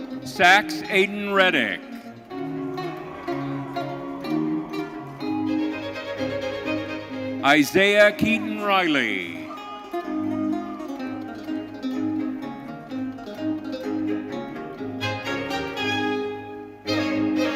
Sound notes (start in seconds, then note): 2.8 audience cheering; 13.1 bright orchestral music continues